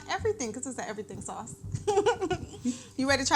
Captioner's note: laughs